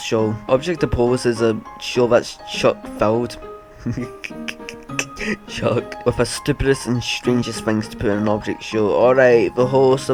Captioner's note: giggle